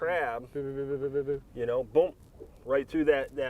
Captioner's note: mimics lips flapping